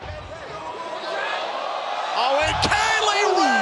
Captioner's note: crowd roars